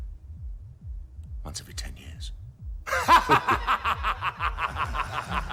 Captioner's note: laughing